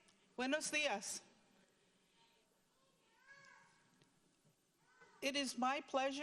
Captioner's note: speaking in foreign language